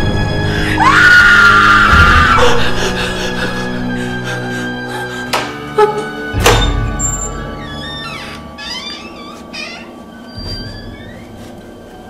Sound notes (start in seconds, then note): 0.7 both scream; 7.1 door creaks